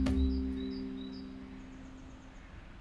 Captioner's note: crickets chirp